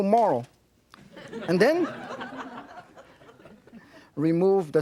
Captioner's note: audience laughing